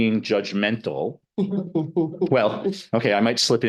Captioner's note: laughing